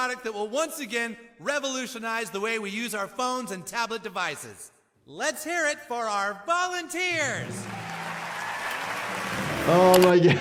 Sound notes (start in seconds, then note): 7.1 crowd cheers; 9.4 laughs